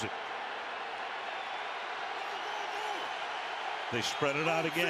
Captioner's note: cheers, applause